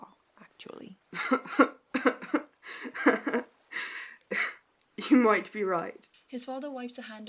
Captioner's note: Orion laughs